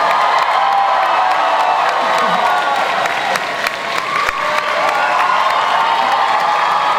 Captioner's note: audience cheering and applause